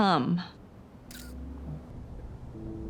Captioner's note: cell phone snaps